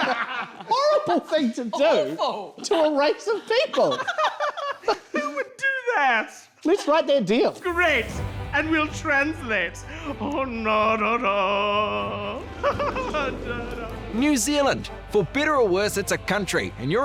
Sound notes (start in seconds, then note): 0.0 laughter; 9.8 sings